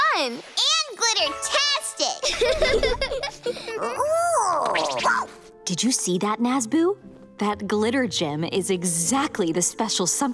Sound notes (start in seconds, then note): 2.2 all giggling